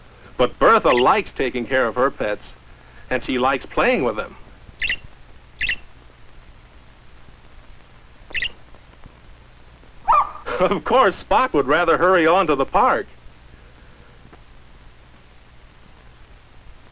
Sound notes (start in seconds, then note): 5.5 chirping; 10.0 barking